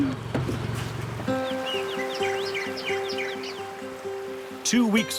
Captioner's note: birds chirping; gentle upbeat music